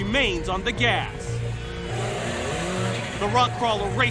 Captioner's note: engine revs